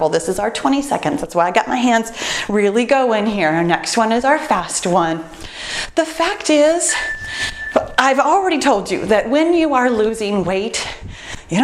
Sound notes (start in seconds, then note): 6.8 timer beeps